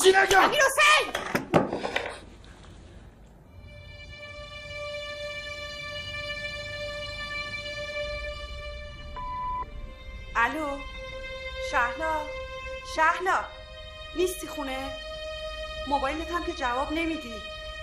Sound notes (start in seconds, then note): 0.7 body thud; 1.3 clanking sound; 3.8 dramatic music; 9.2 message beep; 17.2 dramatic music